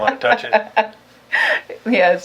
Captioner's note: laughs